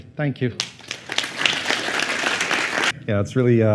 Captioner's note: applause